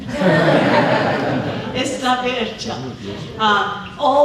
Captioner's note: speaking spanish